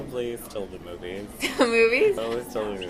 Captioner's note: laughing